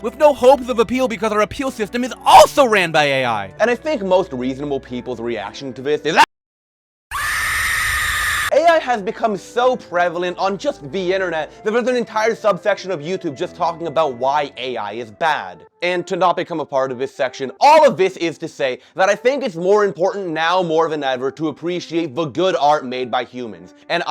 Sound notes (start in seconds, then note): 7.1 scream.mp3